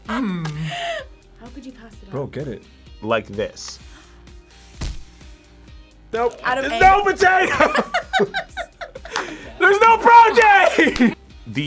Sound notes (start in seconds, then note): 7.4 both laugh; 10.8 laughs